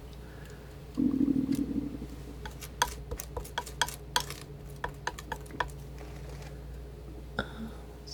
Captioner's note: tapping